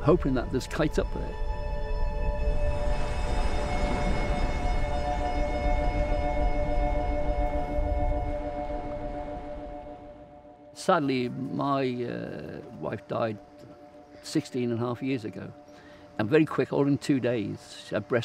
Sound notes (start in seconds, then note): 2.4 waves rumbling; 2.7 serene music